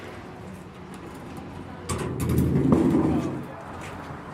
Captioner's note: metal clanking